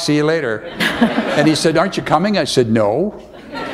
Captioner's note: laughter